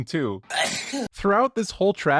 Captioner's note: achoo, but just audio